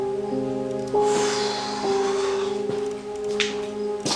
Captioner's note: exhales Deeply